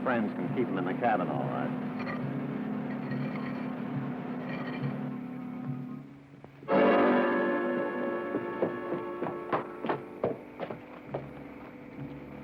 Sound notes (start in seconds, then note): 6.6 suspenseful music; 7.7 hooves clopping